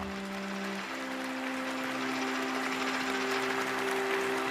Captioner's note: applause